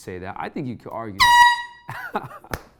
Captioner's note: air horn; laughs